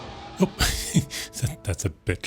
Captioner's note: exclaims